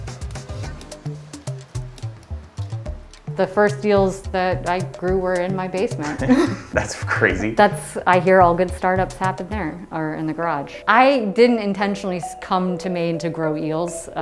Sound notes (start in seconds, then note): 0.2 upbeat music; 5.9 laughing